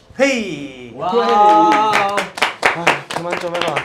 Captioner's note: A round of applause